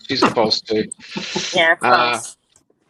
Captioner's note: laughs